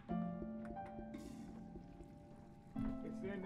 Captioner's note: toilet flushes